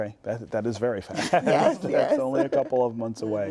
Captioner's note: laughter